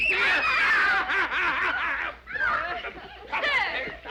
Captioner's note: laughing